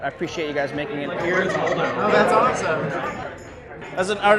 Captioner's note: laughs